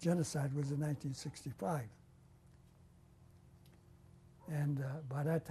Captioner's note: pauses for 3 seconds